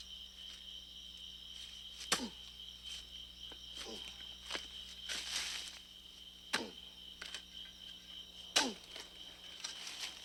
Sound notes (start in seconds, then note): 2.0 shovel thudding; 2.3 Ben grunting